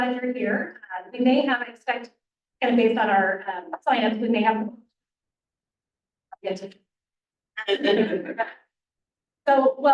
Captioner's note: laughter